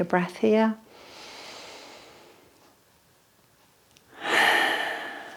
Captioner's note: breathing deeply